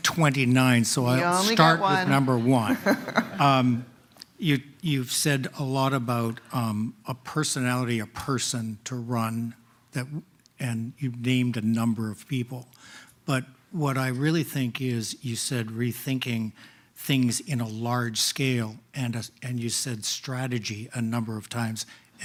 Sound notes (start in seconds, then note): 2.2 laughter